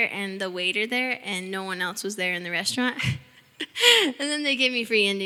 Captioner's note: chuckling